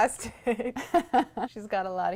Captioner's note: laughter